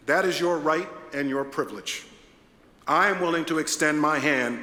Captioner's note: none